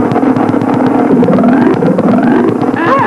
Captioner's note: bouncy noises